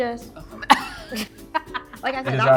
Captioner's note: laughing